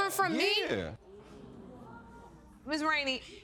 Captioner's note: audience exclaiming